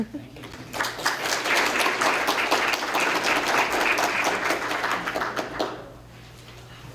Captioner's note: applause